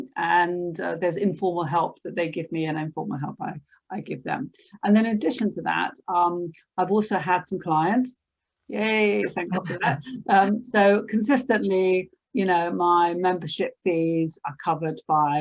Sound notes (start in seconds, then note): 9.2 laughs